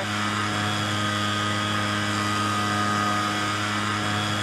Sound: blow dryer whirring

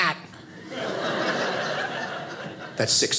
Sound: audience laughing

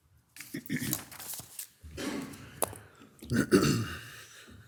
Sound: clears throat

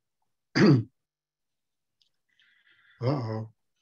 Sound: clearing throat

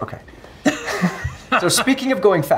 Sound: all chuckle

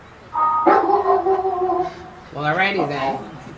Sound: dog barking

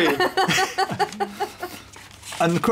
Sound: laughter

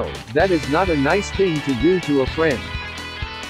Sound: none

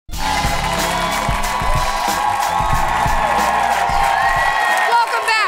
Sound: cheering and applause

